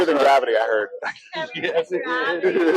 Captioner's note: laughs